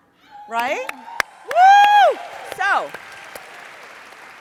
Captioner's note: audience applauds